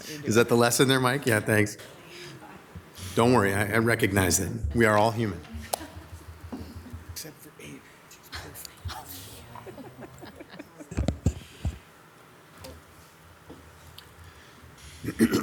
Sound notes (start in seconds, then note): 8.9 council members chuckle